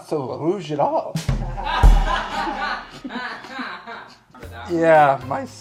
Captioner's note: laughing loudly